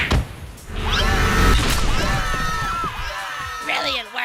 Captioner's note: screaming